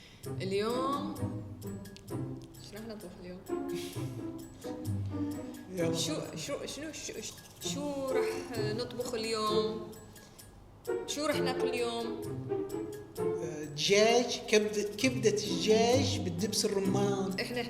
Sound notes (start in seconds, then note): 9.0 Lebanese accent; 12.7 Lebanese accent; 16.6 Lebanese accent